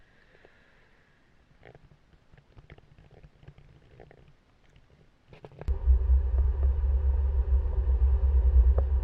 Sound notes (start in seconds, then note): 5.7 accelerating